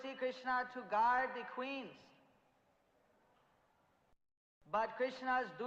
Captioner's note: in Hindi